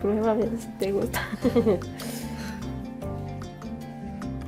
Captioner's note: both chuckle